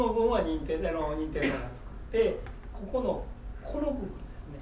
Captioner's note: speaking in foreign language; coughing